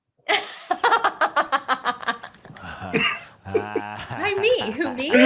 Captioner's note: Desi laughs loudly